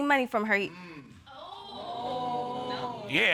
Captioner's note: audience groans